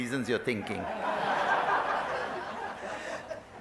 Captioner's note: laughter